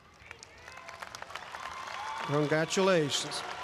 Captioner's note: audience applauds and cheers